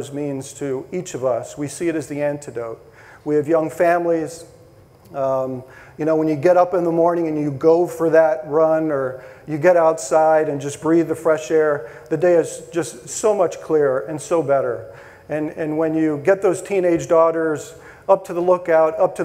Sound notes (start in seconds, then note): none